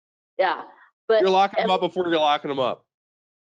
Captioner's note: speaking faintly